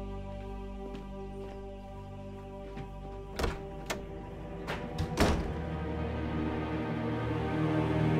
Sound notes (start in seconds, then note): 3.3 door open sound; 3.3 door closing sound